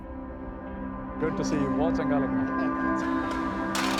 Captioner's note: speaking foreign language